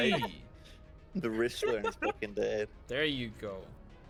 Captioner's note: laughs